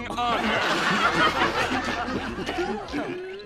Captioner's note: laughing